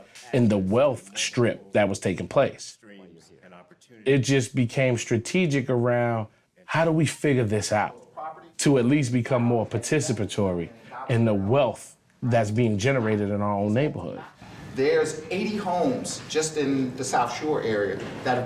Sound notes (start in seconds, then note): none